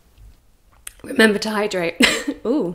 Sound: coughs

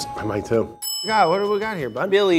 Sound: bell dings

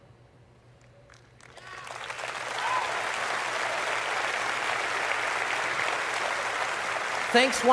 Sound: applause

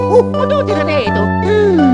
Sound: italian gibberish

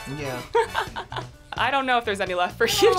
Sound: laughs

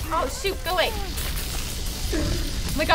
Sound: electricity buzzing

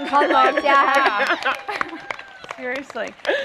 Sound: applause

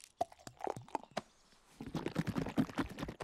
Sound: liquid sloshing

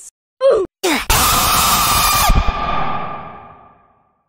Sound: really loud screaming

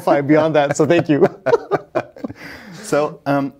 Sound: pair laughing

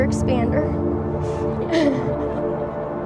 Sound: crowd laughter

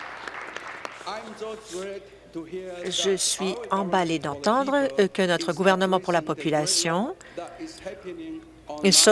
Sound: applause

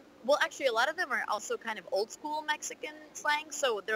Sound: none

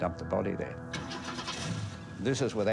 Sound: car engine starts

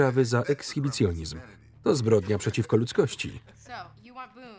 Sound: laughing

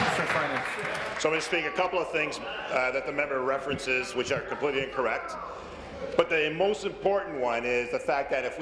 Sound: applause

